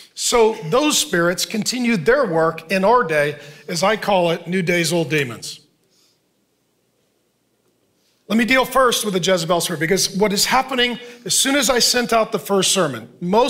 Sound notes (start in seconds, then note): none